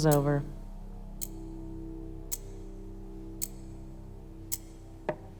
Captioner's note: clock ticking; tapping